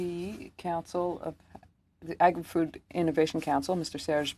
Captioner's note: speaking French